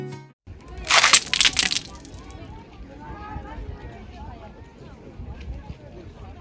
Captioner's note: bustling